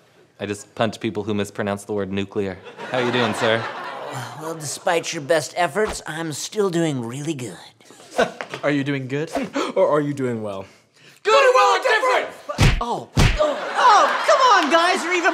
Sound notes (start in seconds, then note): 13.1 smack